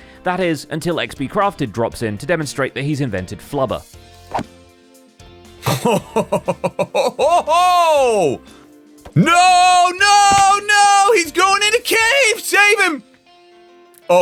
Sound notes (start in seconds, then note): 5.6 impressed laughter; 6.0 thwack